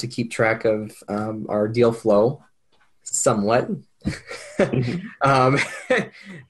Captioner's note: laughs